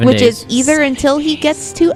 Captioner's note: whispering